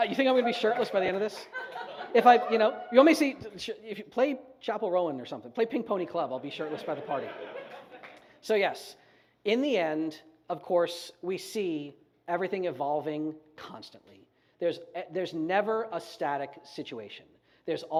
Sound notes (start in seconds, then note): 2.2 audience whoops